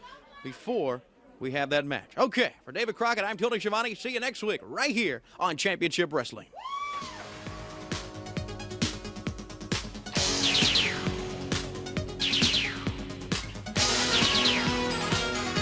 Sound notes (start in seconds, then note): 6.6 crowd cheering